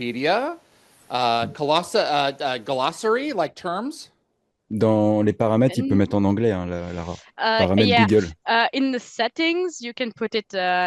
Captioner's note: translating from French